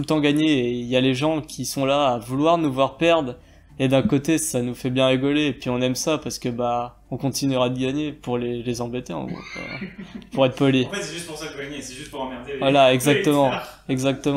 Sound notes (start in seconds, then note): 9.3 laugh